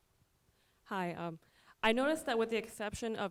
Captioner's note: voiceover